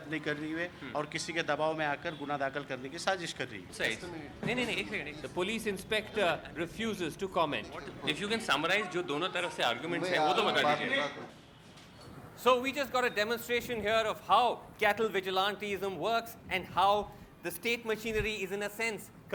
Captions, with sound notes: The police inspector refuses to comment. If you can summarise, [HINDI]. So we just got a demonstration here of how cattle vigilantism works, and how the state machinery is, in a sense,